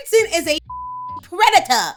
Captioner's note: beep